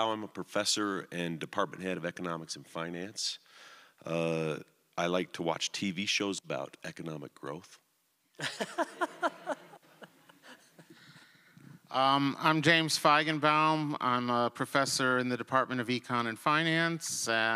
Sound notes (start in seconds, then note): 8.4 laughter